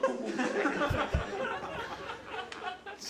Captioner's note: audience laughter